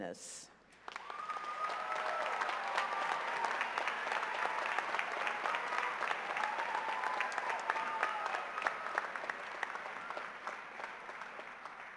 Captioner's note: cheers and applause